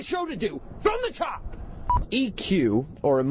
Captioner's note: beep